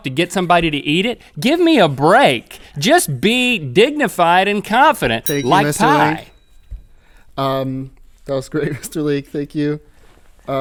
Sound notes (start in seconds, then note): 5.2 bell ding